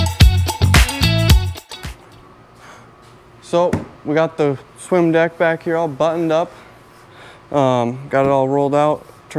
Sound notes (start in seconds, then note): 3.6 hand tapping